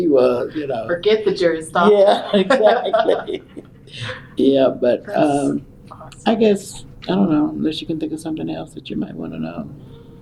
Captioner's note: laughter